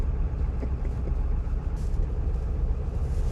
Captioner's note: driver resumes chuckling